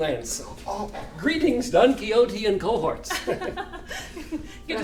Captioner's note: chuckles